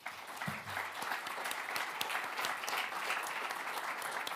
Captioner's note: audience applauding